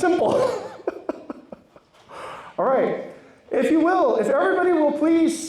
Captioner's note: laughs